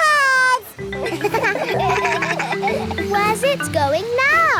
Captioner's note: kids laugh